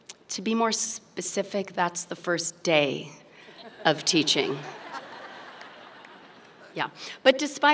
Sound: laughter

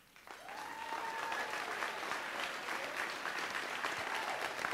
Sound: audience applauds

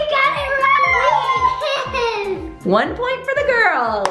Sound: laughing

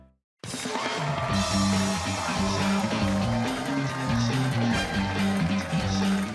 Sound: cheers and applause

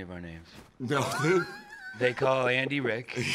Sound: laughs

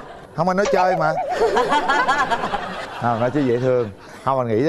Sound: laughter

